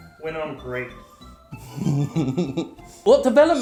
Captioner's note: chuckles